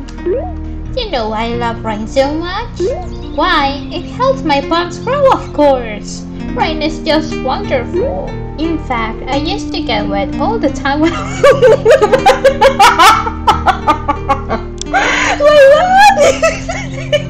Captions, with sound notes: "You know why I love rain so much? Why, it helps my plants grow, of course! Rain is just so wonderful!" "In fact, I used to get wet all the time when I was..." [laughs] [laughs way too much]